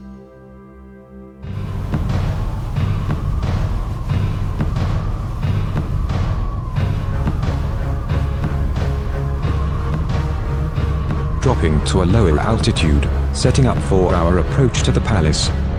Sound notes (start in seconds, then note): 2.1 high Wind Sounds